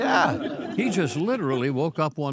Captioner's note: audience laughing